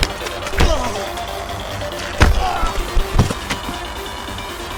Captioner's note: kicks thudding